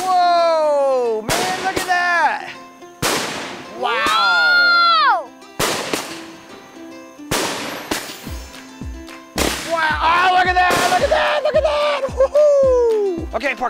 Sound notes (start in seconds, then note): 3.0 firework loudly retorts; 7.3 firework loudly retorts